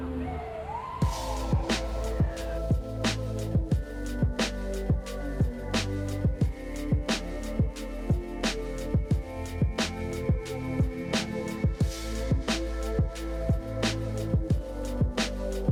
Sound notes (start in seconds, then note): 0.6 sirens wailing; 8.1 chill hip-hop music continues